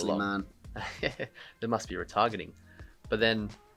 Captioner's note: laughs